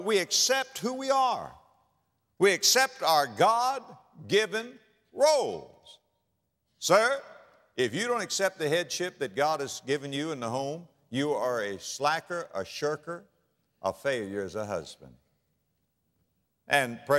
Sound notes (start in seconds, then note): none